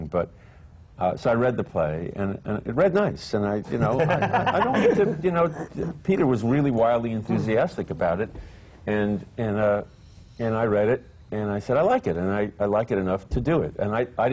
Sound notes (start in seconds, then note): 3.7 laughter